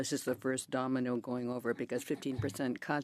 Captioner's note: speaking in French